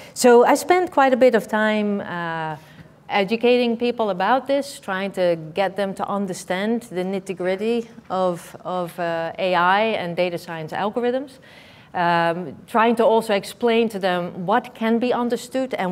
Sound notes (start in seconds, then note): none